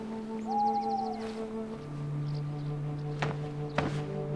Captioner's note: owl hoots